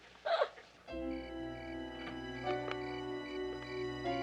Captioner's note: crickets chirping